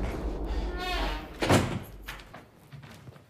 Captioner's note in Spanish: Se abre y se cierra una puerta